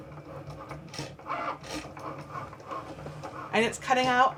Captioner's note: Cricut whirs